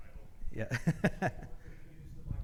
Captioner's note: laughs